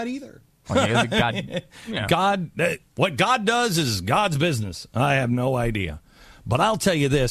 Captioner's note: laughs